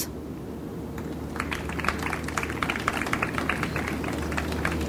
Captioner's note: audience applauds